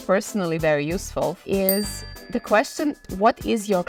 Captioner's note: bell dings